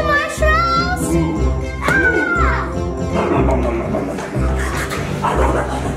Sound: ghost eating marshmallows loudly

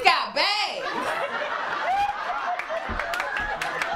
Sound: laughter, applause, and cheering

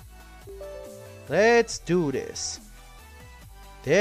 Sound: Windows 10 UAC Sound

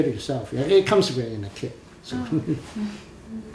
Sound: laughs

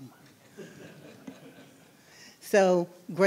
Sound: laughing

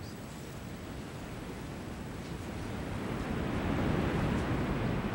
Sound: lava gushing

